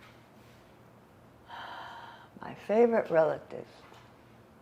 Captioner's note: sighinng